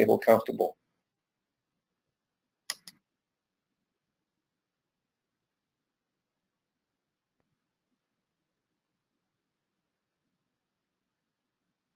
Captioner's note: pause